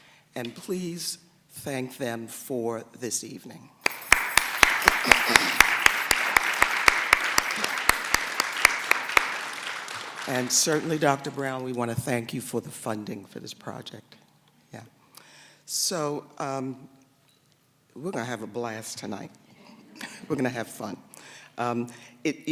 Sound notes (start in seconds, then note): 7.9 applause; 19.8 laughter